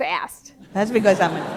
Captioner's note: laughter